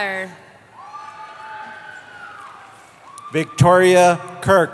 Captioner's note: cheering